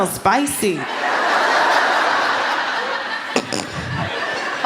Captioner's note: laughter